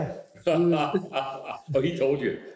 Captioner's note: laughs